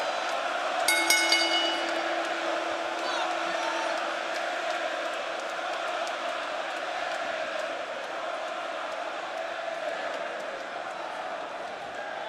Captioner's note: crowd cheering; bell ringing